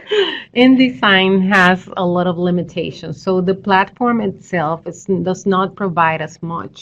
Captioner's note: laughter